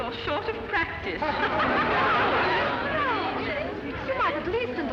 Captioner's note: women laugh